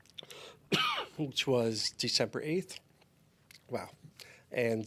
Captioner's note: coughs